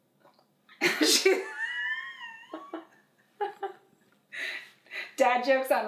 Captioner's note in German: kichern